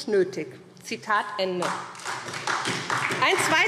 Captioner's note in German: Beifall SPD